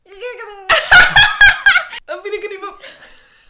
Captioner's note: laughing